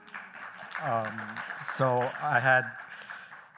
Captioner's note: applause